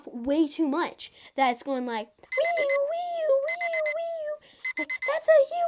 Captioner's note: alarm beeps